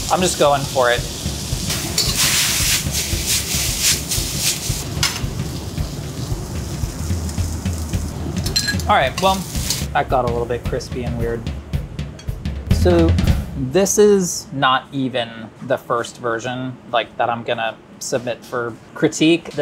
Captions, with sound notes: I'm just going for it. [noodles sizzle] All right, well, that got a little bit crispy and weird. So this is not even the first version that I'm gonna submit for critique.